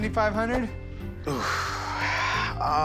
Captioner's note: sighs